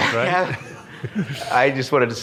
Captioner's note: audience laughs